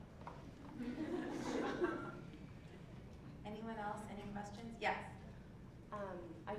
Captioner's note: laugh